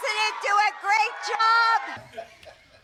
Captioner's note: audience cheers